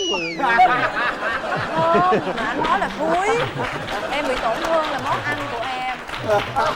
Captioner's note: laughing